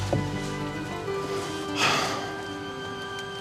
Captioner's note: sighs